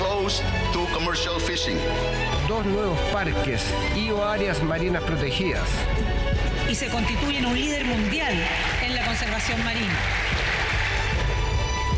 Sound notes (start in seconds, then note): 2.6 speaking in foreign language; 11.7 uplifting music